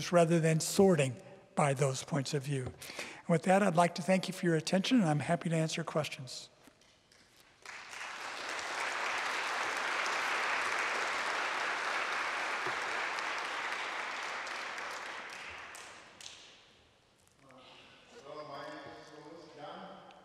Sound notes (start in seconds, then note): 7.5 applause